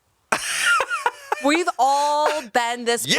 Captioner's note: laughs